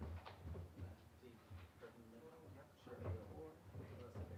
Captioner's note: indistinct chatter